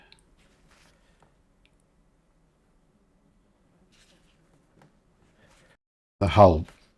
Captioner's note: silence